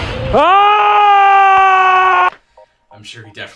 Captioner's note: shouting